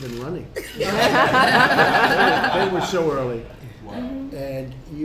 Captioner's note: laughter